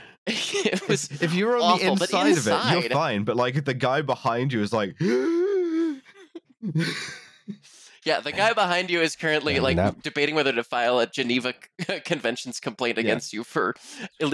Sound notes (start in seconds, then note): 0.3 laughter; 0.3 laughs; 5.0 strangled gasp